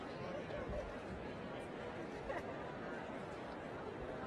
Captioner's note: crowd murmuring